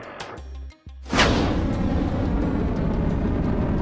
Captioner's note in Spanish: los cohetes hacen viento con su lanzamiento